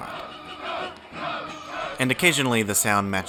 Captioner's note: crowd